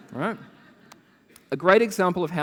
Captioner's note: laughter